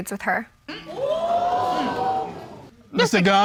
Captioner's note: audience gasping